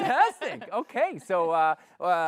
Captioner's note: laughs